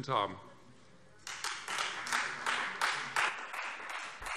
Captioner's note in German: Beifall Freie Demokraten